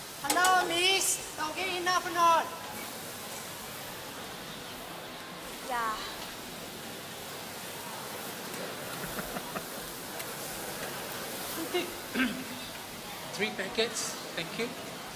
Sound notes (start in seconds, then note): 8.8 laughter